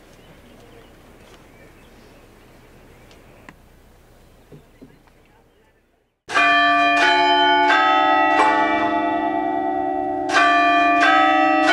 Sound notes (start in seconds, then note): 6.3 bells tolling